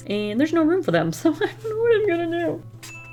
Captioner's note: laughs